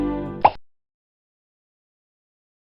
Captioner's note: pop